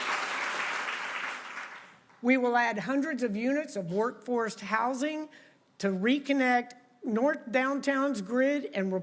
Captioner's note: applause